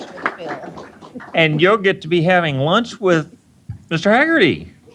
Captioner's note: applause